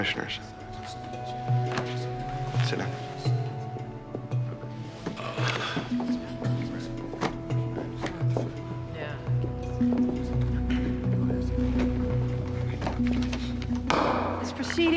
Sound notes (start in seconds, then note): 5.2 Nash groans; 13.8 gavel bangs